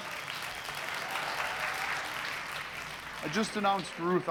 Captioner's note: applauding